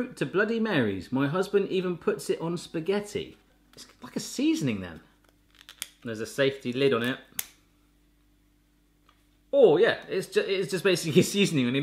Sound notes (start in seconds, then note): none